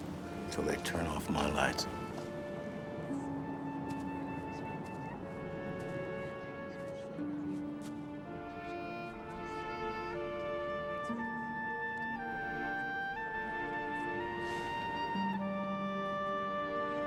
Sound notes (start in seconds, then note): none